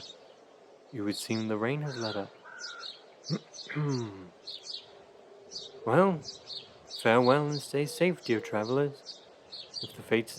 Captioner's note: grunt